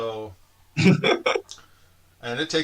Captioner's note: laughter